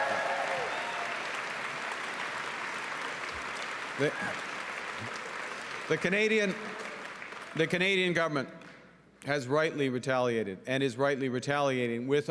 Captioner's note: cheering and Applause